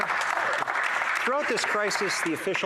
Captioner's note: some Applause